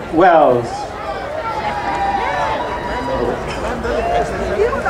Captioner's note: crowd cheering